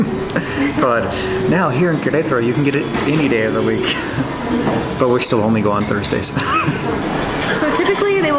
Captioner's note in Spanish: Risas